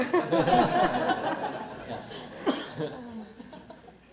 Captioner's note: audience laughter